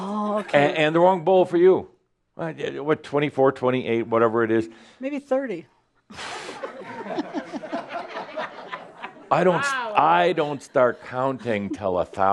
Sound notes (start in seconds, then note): 6.4 laughter; 11.4 she is giggling